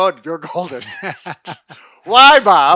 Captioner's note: chuckling